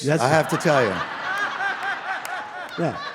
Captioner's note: audience laughing